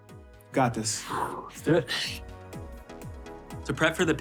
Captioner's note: exhaling